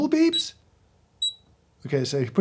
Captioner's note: scale beeping